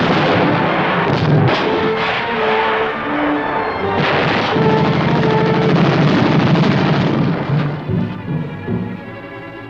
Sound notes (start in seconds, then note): 4.0 rapid gunfire